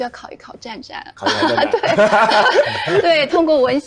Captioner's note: hahahaha